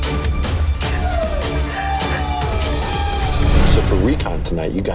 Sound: sobbing

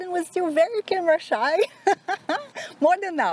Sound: laughs

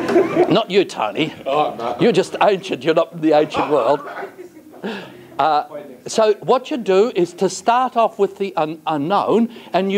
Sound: laughter; laughter

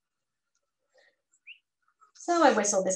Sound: whistling

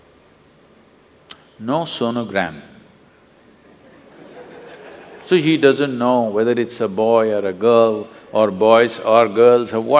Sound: laughter

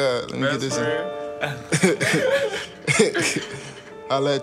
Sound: laughing

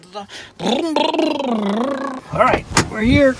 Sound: making vroom sounds

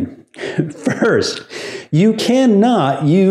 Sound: laughs

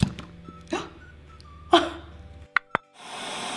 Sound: gasps

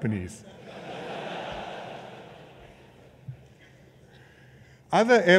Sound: laughter

